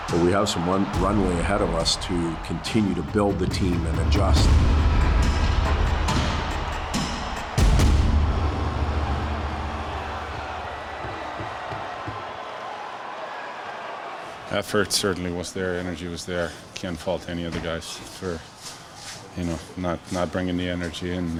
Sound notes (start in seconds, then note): 5.2 intense music; 9.9 crowd cheering